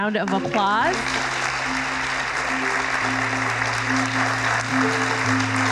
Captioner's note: applause